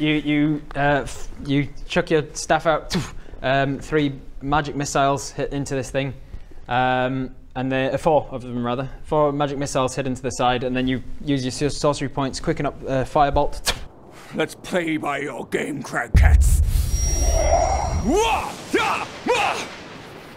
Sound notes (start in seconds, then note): 16.7 intense magic noises